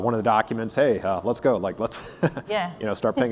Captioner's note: laughs